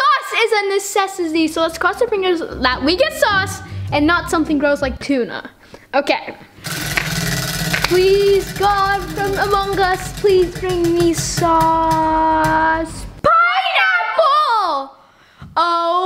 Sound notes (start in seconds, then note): 6.6 wheel clicking; 7.6 clapping